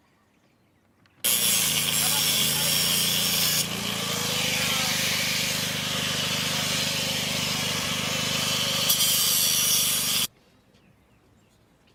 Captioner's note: crews working